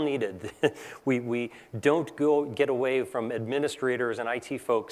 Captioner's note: laugh